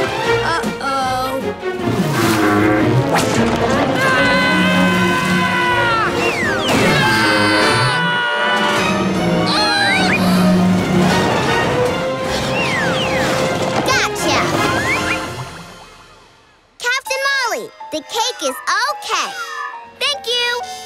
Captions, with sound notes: Uh oh. [screaming] [screaming] [yelling] Gotcha! Captain Molly, the cake is okay! Thank you!